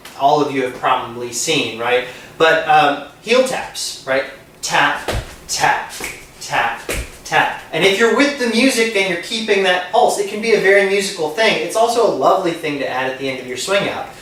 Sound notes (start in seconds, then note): 6.8 tap, tap, tap, tap